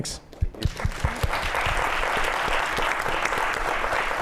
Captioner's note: applause